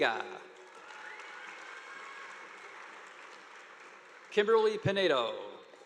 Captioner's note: audience applauding